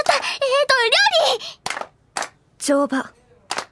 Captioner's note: clap clap; clap clap